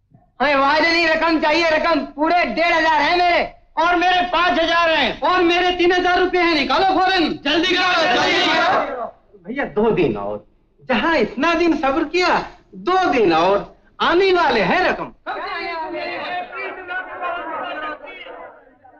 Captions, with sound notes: I want my money. You owe me 1500. And 5000 to me. And 3000 to me. I want them now. Hurry up. Just give me a couple of more days. Where you've waited for so long, what's a few more days. (Indistinct chatter)